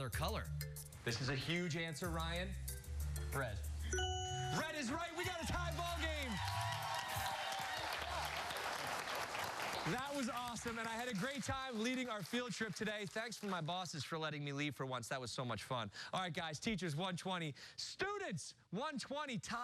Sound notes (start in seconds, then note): 7.8 cheers and applause